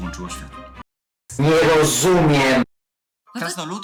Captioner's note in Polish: zmodulowany głos z offu